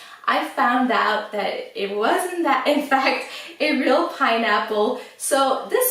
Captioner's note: laughs